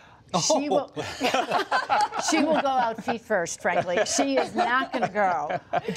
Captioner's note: laughs; laughter